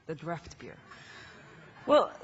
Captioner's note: laughing